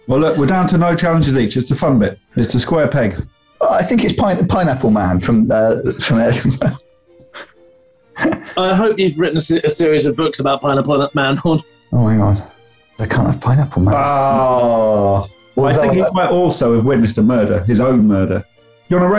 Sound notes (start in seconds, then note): 5.4 laughing